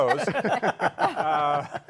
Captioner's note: laughter